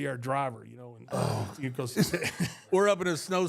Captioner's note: Undertaker groans